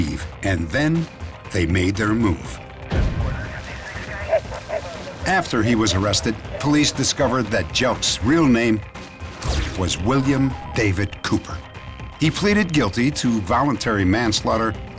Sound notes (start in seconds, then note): 4.1 dog barking